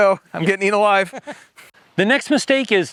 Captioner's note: laughs